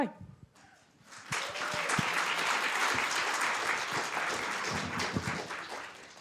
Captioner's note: applause